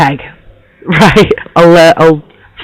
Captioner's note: laughs